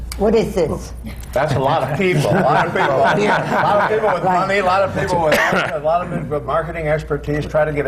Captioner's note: laughter